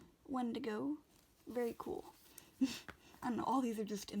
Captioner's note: laughs